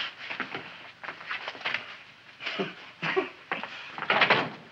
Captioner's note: Wilbur chuckles